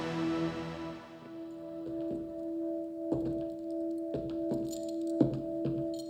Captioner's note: footsteps tapping